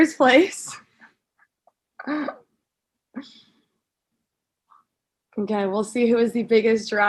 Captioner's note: laugh